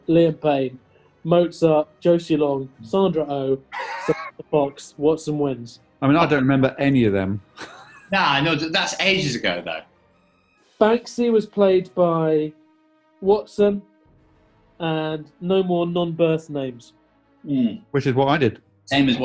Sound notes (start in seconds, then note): 3.6 sniggering